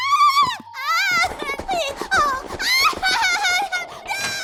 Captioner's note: woman cries